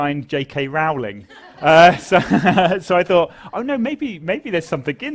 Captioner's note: laugh